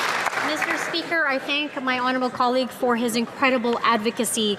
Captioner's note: some Applause